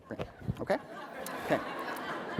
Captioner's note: laughter